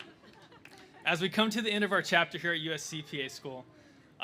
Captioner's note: laughter